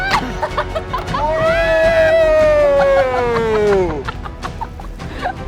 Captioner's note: laughs